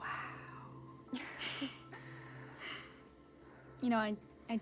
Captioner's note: both giggling